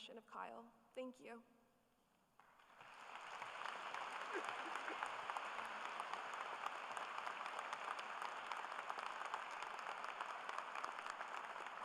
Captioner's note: applause